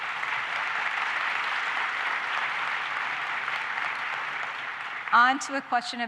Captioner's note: applause